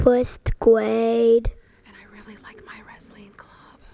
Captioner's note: whispered